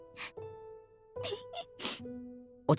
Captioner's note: sniff